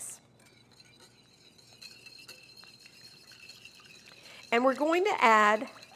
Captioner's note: whisks dressing